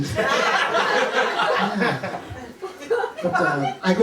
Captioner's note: laughter